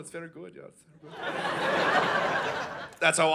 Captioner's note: audience laughing